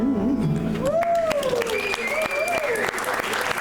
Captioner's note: audience applauding